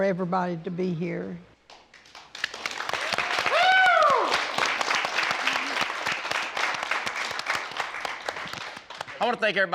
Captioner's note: crowd clapping